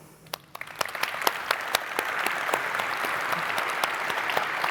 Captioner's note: audience applauding